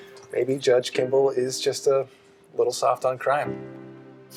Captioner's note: none